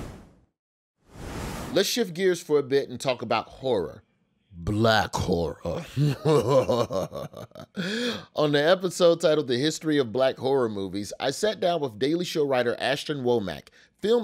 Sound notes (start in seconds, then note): 5.7 laughs evilly